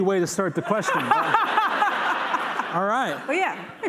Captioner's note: laughter